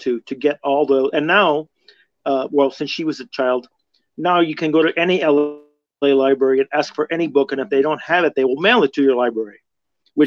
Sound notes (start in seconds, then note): none